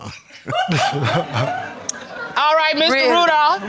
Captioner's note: crowd chuckles